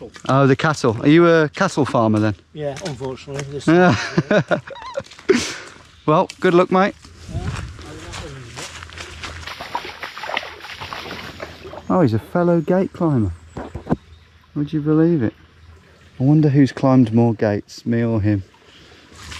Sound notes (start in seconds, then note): 3.7 laughing; 9.3 water sloshing